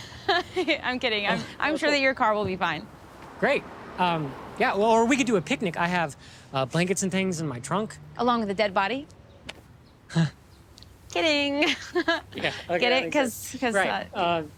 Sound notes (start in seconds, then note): 0.0 laughs; 9.9 Anthony chuckles uncomfortably; 11.6 laughs